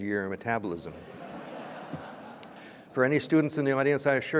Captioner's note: audience laughs